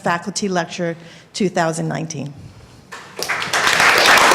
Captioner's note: applause